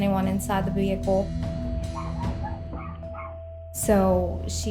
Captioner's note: dog barking